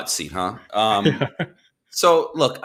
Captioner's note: laughs